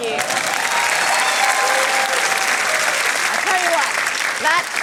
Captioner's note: cheering, applause